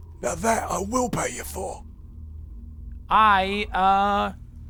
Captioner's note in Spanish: none